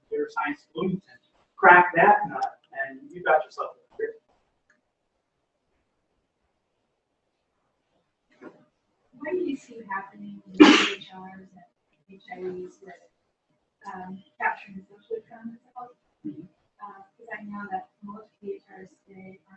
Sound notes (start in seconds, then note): 5.0 pause